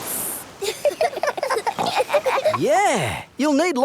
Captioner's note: giggling